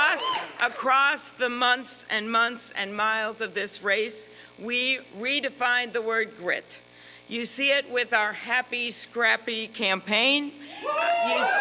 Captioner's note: applause